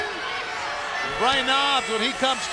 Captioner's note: crowd chatter